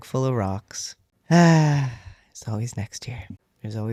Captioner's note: sigh